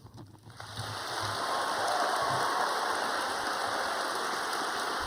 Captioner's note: audience applauding